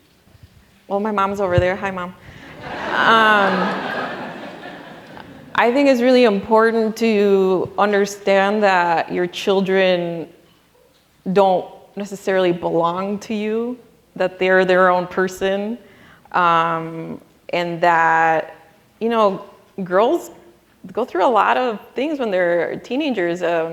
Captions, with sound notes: Well, my mom's over there, hi mom. (audience laughing) I think it's really important to understand that your children don't necessarily belong to you. That they're their own person and that, girls go through a lot of things when they're teenagers.